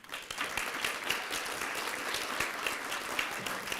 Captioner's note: applause